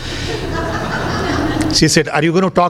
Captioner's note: laughter